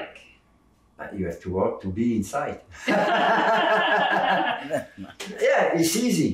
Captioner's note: both laughing